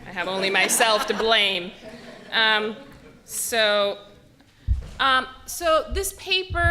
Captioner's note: laughter